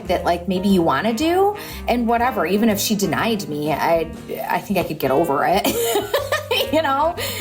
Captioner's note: laughs